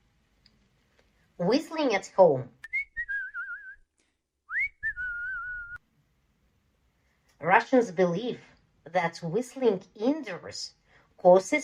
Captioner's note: sound of whistle